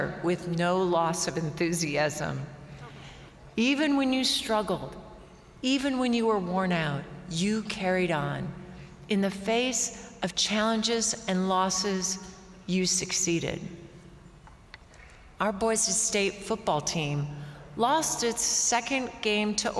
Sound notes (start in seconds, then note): none